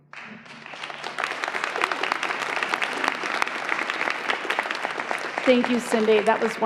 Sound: applause

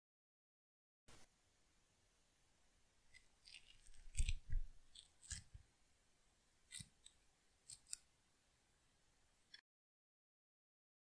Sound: sound of ripping a flesh

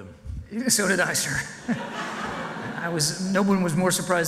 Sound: audience laughs

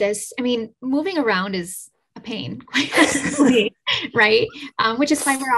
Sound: laughs

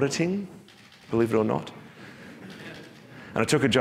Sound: audience chuckling

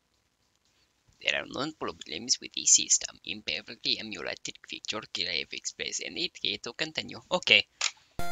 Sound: reading the text on-screen in a funni voice

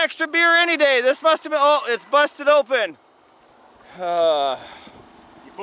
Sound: sighs

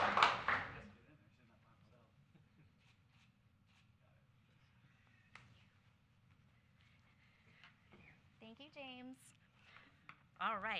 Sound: applause

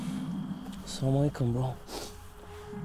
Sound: speaking foreign language

